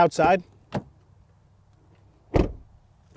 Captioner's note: door closes; door opens